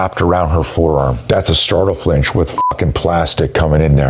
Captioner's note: beep